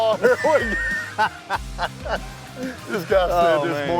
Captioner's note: laughter